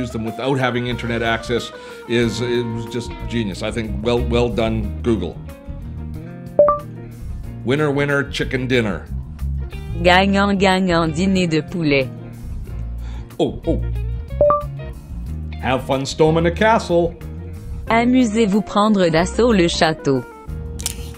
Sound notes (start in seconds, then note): 6.5 upbeat music; 6.7 chiming; 10.1 woman speaks in foreign language; 14.4 chiming; 17.9 woman speaks in foreign language; 20.8 snapping